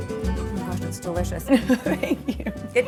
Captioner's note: laughs